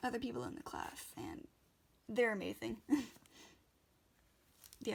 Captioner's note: laughs